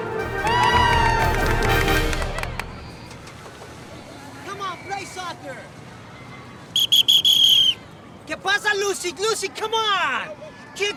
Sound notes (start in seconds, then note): 0.0 crowd cheering; 6.7 whistle blows